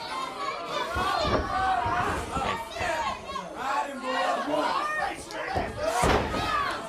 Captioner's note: crowd chatter